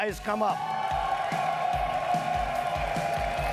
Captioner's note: audience cheering and clapping; upbeat music